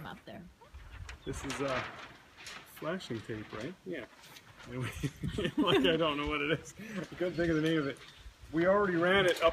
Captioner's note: laughing